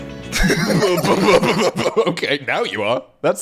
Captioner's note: laughing